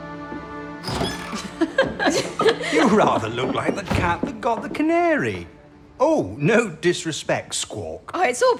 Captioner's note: A door opens. Footsteps and the laughter